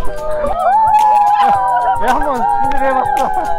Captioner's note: Cheering